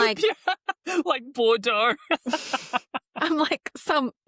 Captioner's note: laughs